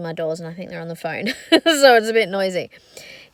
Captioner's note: laughs